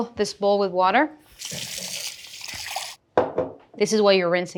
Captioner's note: water sloshing; bowl thuds